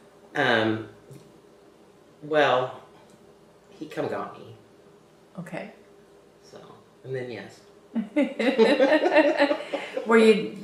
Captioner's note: laughter